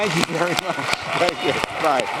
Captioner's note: applause